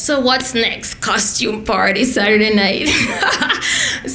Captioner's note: laughs